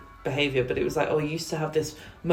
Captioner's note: distant bells